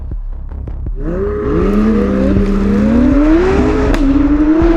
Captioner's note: engine revving